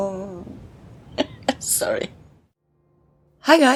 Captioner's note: laughs